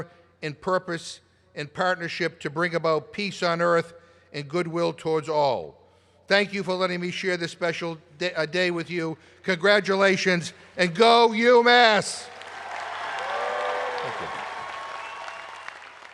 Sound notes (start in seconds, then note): 12.1 applause